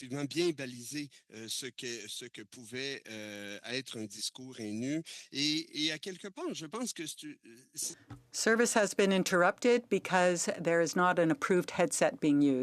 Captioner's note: speaking French